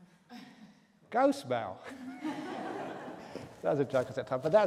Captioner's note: laughter